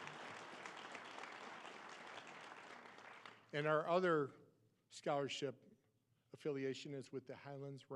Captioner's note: applause